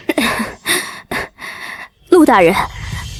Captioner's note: cough, cough